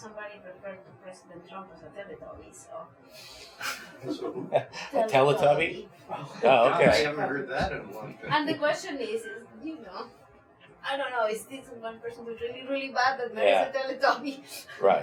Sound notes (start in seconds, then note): 3.6 laughs